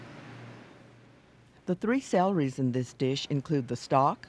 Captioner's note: voiceover